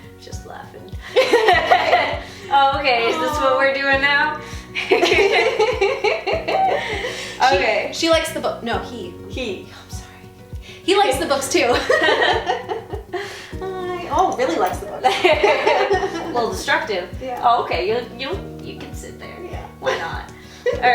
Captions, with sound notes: - Just laughing. (laughing) Okay is this what we're doing now? (laughing) - She likes the book, no he. - He. - I'm sorry, he likes the books too. (laughing) Oh really likes the book. (laughing) - Little destructive, okay, you can sit there, why not.